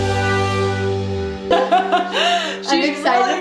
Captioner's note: laughs